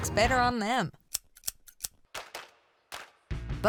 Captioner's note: snipping